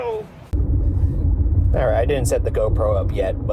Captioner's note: car rumbling